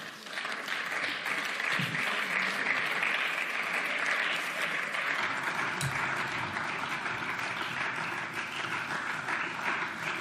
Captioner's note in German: Beifall